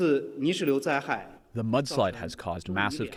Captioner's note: through translator